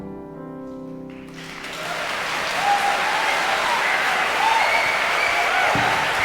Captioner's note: audience cheering and applauding